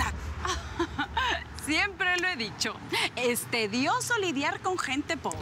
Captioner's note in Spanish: Risas